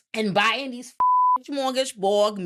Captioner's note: beep